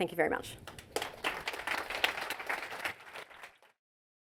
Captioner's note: applause